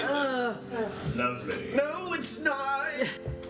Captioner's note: sounds of disgust